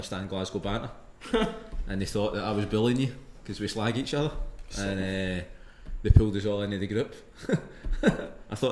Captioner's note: laughs